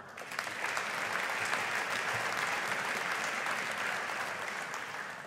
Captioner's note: audience applauding